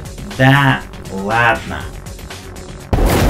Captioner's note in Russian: Буммер отвечает через аудиосистему